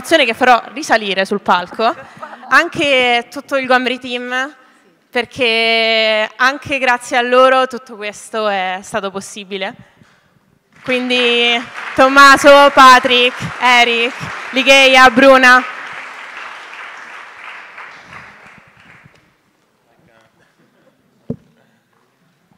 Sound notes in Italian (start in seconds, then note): 16.3 Applauso